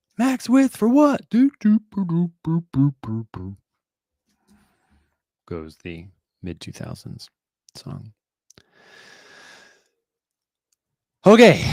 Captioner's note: humming